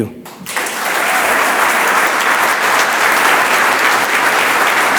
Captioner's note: audience applauds